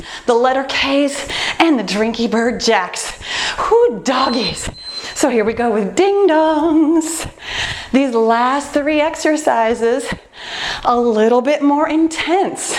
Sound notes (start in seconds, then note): 4.1 timer beeping